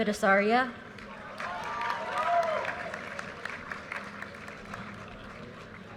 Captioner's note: audience cheers and applause